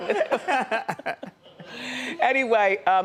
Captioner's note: laughing